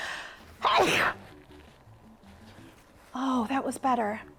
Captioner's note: sneezes